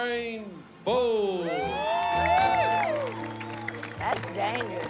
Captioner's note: cheering